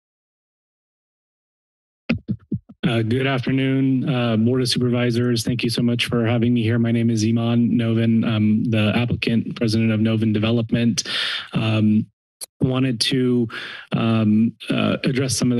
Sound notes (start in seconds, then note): 1.7 adjusting mic